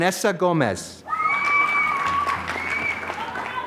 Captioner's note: applause